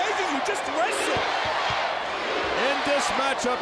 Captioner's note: crowd chants "USA"